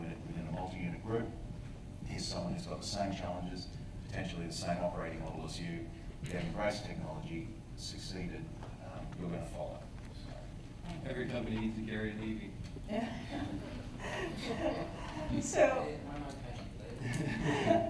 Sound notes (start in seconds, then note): 14.0 laughter